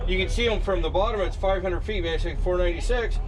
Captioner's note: boat engine idling